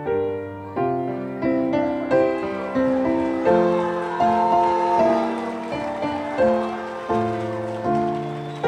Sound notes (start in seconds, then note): 2.7 audience cheering